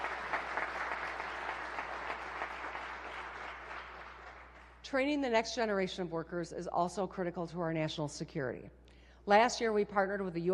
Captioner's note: applause